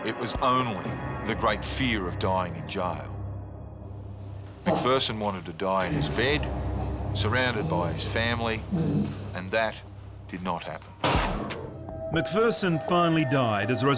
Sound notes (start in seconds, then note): 11.0 gun fires